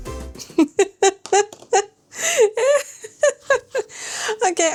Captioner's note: laughs